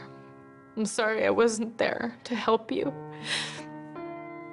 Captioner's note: inhales sharply